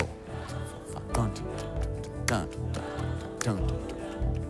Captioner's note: ticking